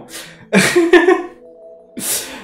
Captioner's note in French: rire